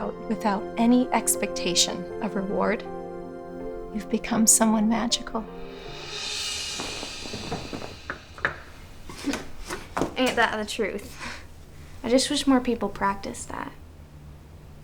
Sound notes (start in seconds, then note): 5.6 soft dramatic music; 9.0 chuckles